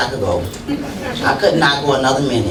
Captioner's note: laughter